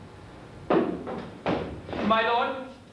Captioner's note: footsteps